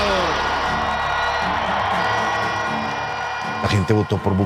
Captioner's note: cheers and applause